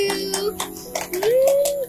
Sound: claps

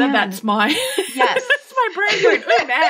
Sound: laughing

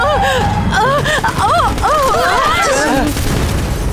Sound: Queen yelps; gunfire

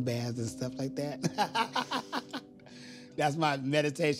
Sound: laughs

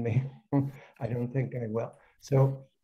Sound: laughs

